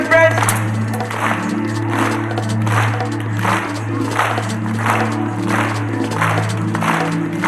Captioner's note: audience clapping; suspenseful music